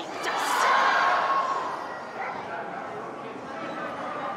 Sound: crowd exclaims

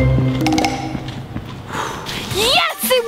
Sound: sighs loudly

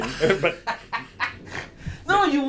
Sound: laughing

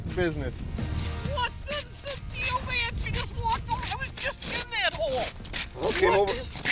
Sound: shouting

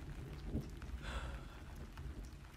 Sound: sighs

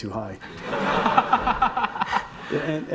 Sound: audience laughing

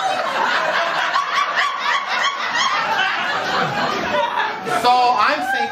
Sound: laughter

